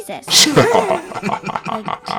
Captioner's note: snorts & Laugh